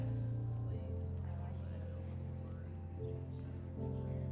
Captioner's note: crowd talking quietly